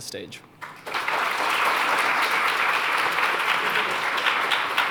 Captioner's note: applause